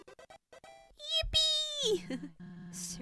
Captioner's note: laughs